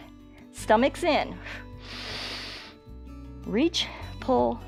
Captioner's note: exhales and inhales